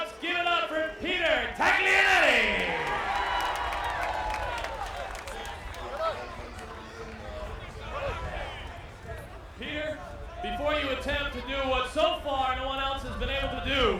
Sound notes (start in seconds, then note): 1.1 applause